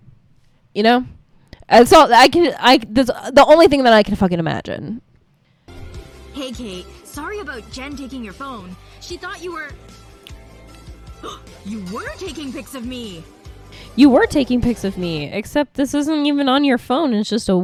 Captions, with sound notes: Ya know? That's all, *stutters* like, that's the only thing I can fucking imagine. "Hey, Kate. Sorry about Jen taking your phone, she thought you were..." "*gasps* You WERE taking pics of me!" You were taking pics of me, except this isn't even on your phone.